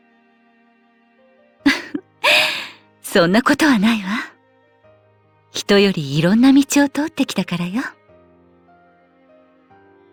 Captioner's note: laugh